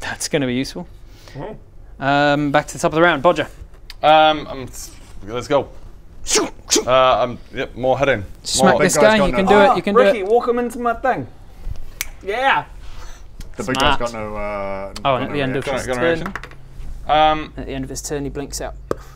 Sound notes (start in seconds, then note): 11.9 click!